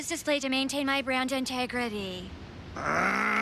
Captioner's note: groaning